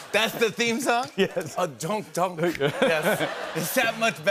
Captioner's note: laughter